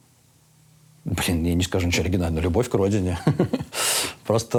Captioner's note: laughs